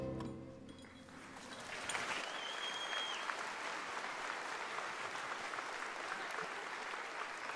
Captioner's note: cheering and Applause